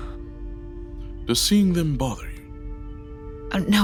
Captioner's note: Sophrosyne breathing heavily